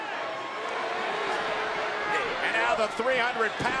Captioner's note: crowd boos